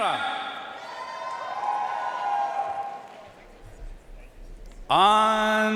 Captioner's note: audience cheering and applauding